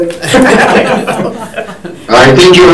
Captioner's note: all laughing